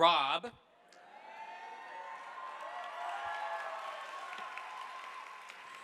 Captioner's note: audience applauding